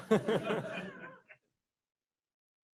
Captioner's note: laughter